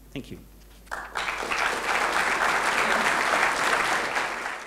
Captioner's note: applause